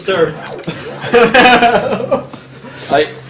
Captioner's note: laughs